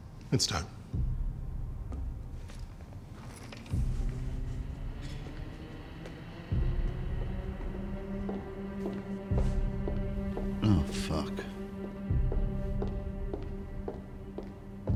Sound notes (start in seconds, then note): 1.1 tense music; 8.6 high heels clacking